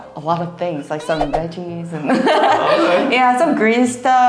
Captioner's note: laughs